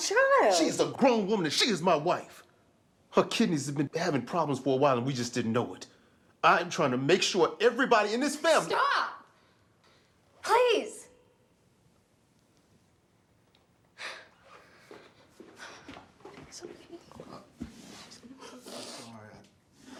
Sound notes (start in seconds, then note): 14.0 Tracy sighs; 17.6 E.J. sniffles